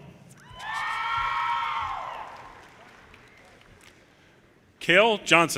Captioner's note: audience cheers and applause